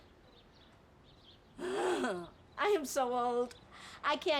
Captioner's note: laughs